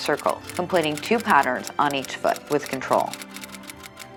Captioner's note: typing sounds